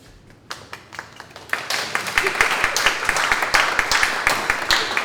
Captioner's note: audience clapping